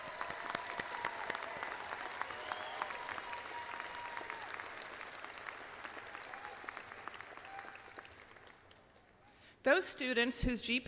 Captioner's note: audience applauds